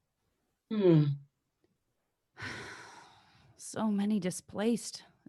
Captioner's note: sighs